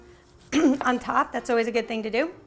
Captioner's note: clearing throat